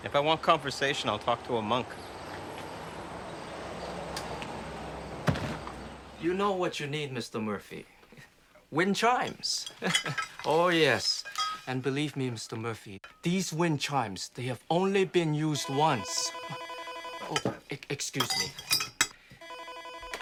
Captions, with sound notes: If I want conversation, I'll find a monk. You know what you need, Mr. Murphy? Wind chimes. Oh yes. And believe me, Mr. Murphy, these wind chimes, they have only been used once... [phone ringing] Excuse me.